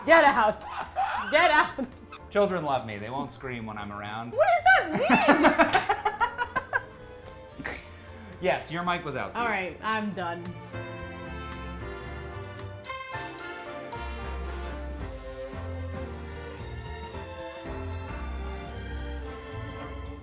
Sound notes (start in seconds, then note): 5.0 laughs; 10.7 upbeat jazzy music